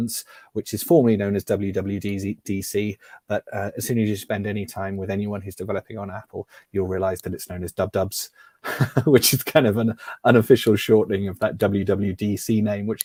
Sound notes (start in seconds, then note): 8.6 laughs